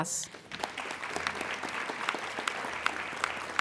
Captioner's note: applauding